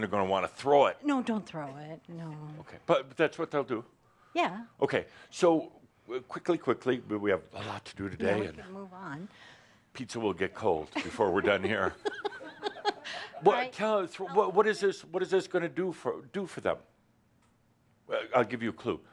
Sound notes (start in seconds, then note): 10.8 she giggles